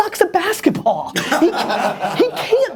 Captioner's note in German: Lachen